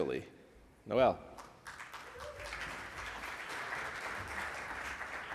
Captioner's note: audience applauds